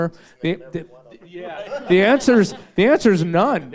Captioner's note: all laugh